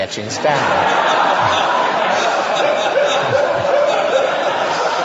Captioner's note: audience laughter